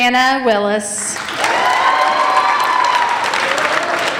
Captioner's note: applauding